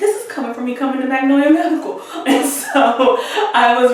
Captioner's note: laughs